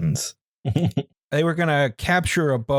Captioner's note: chuckles